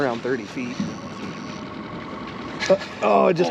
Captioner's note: reel cranking